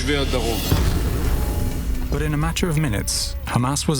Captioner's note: explosion booming